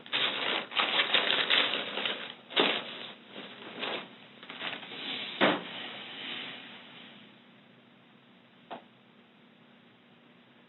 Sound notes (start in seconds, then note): 0.0 papers crinkle loudly; 5.4 bag hits ground softly